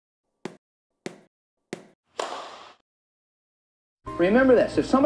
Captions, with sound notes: (ball bouncing) (racket whacking) - Remember this,